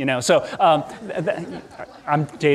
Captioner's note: audience laughing